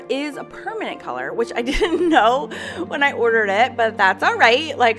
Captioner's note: laughing